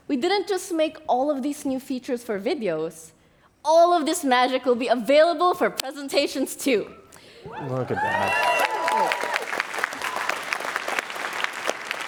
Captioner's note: applause